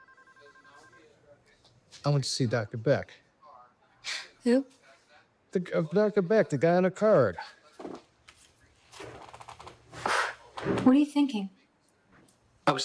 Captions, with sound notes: (telephone ringing) - I went to see Dr. Beck. - Who? Dr. Beck, the guy on the card. (people chattering) - What are you thinking?